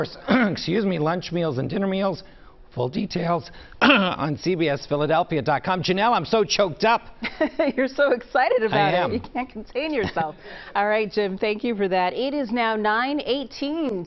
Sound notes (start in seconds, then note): 9.9 laughter